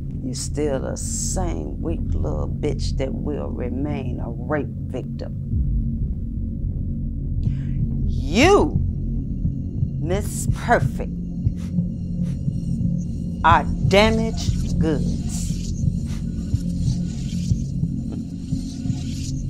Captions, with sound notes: You're still the same, weak little bitch that will remain a rape victim. You, (heart beating) Miss Perfect, are damaged goods. [Music intensifies]